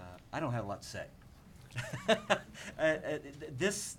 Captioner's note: laughs